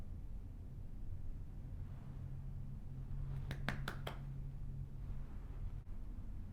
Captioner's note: claps